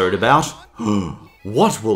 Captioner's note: gasps